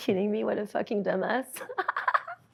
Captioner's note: laughs